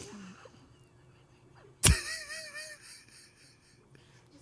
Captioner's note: everyone laughs